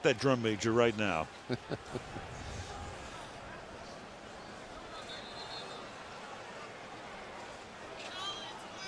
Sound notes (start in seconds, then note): 1.4 chuckles; 5.0 whistle blows